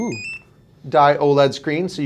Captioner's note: beeping